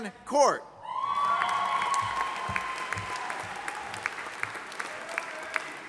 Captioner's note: audience applauding